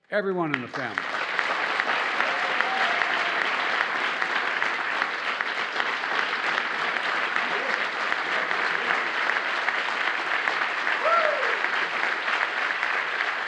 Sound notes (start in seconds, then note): 2.5 applause